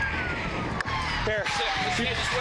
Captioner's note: sirens